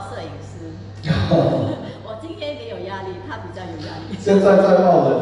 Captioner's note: haha